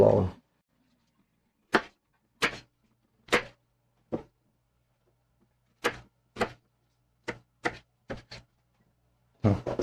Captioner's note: knife cutting